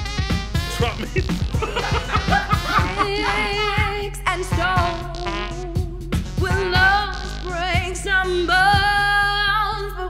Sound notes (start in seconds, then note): 1.5 laughter